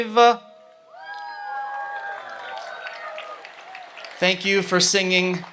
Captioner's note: audience applauds and cheers